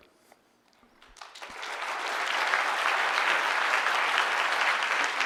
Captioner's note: audience applause